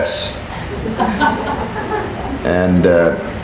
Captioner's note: people laughing